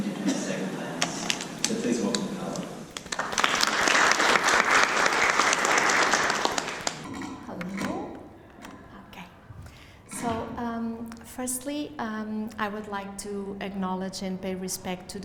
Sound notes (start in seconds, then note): 3.2 applause